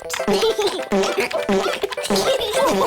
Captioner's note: giggles